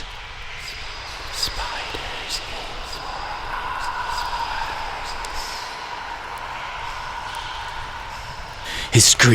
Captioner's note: sinister Whispers; harsh Voice